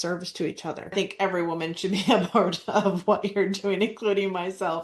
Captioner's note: laughs